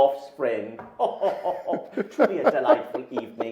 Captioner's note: men laughing